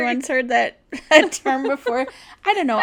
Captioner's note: laughs